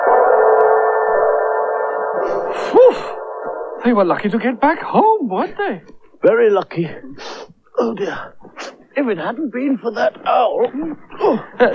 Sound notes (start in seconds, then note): 6.9 sniffs